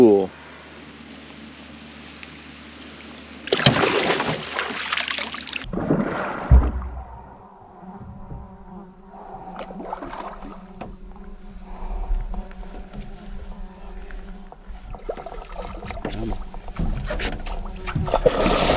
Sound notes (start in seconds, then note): 3.4 fish splashing; 8.9 buzzing; 9.5 fish splashing